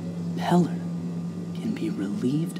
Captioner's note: none